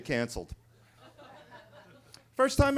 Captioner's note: attendees laughing